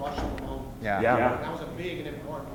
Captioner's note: voiceover